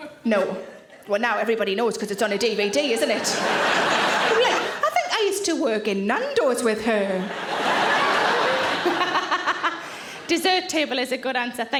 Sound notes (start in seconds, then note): 2.4 audience laughing; 7.9 Sarah laughs